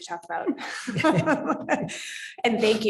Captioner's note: moderator chuckling